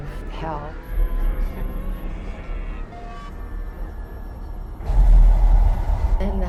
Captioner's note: spooky noises